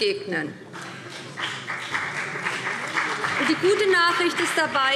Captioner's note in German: Beifall BÜNDNIS 90/DIE GRÜNEN und vereinzelt CDU